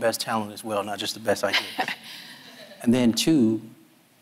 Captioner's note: laughs